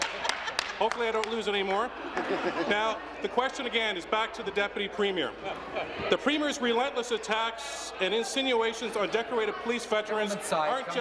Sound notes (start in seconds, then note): 5.3 laughter